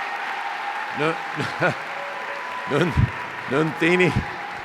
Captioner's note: chuckles